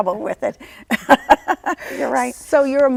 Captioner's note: laughs